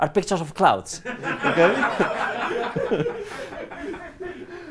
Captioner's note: laughter